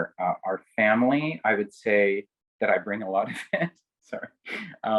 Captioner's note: laughs